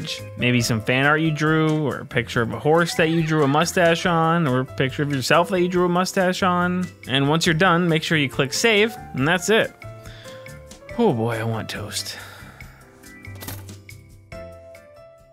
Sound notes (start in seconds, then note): 12.1 sigh; 13.4 sound of toaster popping up